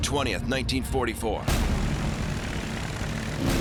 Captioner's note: propeller whirring